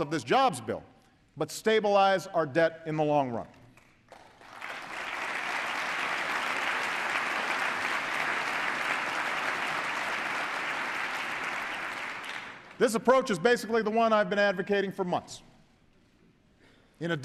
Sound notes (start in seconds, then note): 3.7 applause